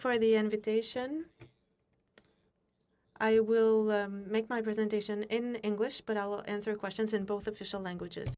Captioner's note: speaking French